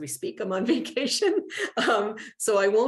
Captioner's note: laughter